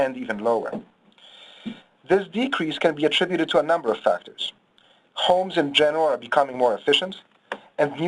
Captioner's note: loud thud